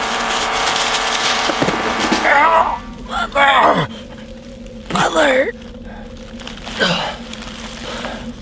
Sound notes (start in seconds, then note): 1.6 groaning; 3.1 choking